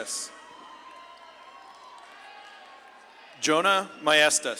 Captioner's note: audience claps and cheers